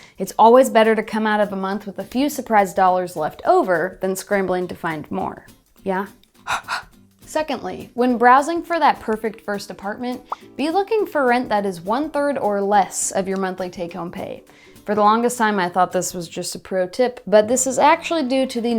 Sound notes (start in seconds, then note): 6.4 blowing onto glasses